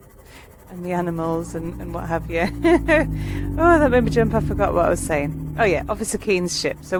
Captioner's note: laughing